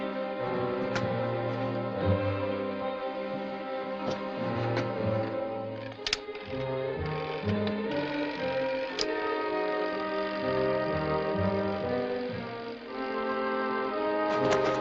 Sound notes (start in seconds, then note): 8.5 whirring